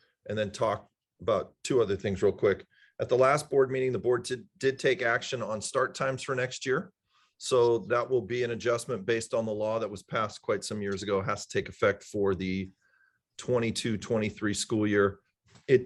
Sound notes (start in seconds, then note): none